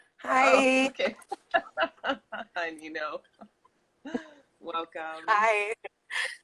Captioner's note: laughs